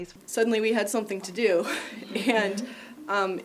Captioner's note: laughs